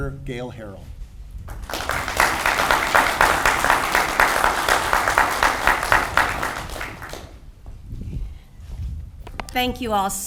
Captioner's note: audience applauds